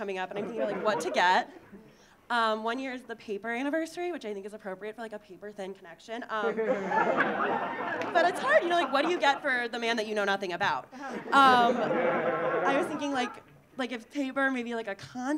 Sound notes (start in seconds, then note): 6.4 audience laughing; 11.0 audience laughing